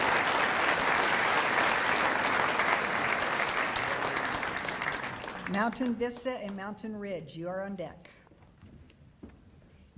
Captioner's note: applause